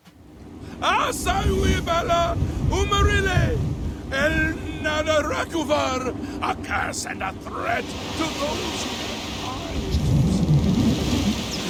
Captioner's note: priest rambling loudly